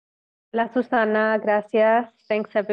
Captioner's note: speaks in foreign language